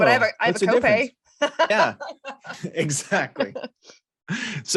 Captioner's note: chuckles